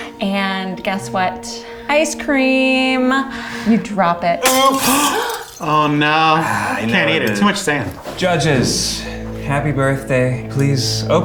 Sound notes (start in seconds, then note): 4.4 glass clinking